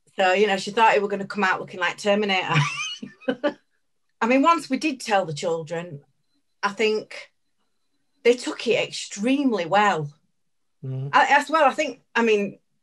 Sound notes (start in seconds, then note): 2.5 laughs